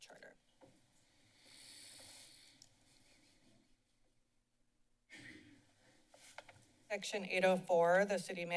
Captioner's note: silence